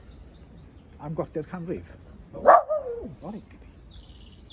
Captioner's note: ci yn gyfarth